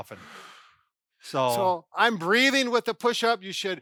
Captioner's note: exhales